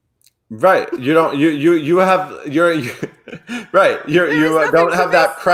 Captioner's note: laughs